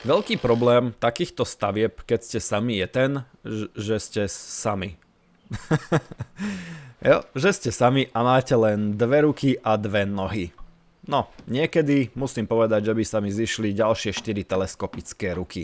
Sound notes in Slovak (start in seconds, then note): 5.4 smiech